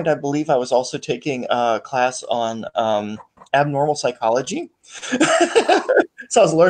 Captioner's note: laughs